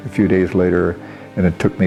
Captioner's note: non-english